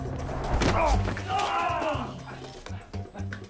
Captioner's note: both grunt